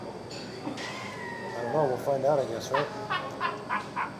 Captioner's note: laughing